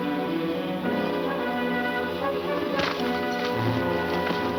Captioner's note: punch thuds